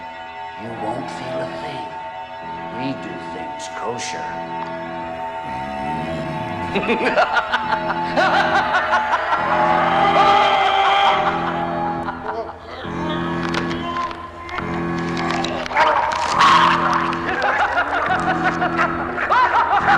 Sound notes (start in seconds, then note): 5.4 Buddy growling; 6.3 Lester cackles; 9.4 Harold groaning; 15.7 gurgling; 16.4 Lester cackling